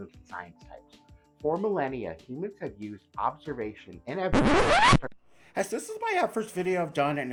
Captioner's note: record scratch